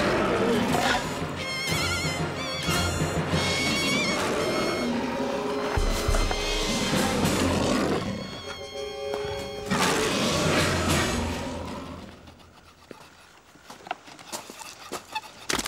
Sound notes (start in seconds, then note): 0.7 bird squawking; 4.0 growling